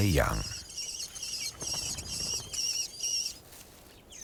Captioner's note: birds chirping